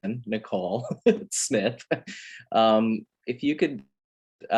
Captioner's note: laughs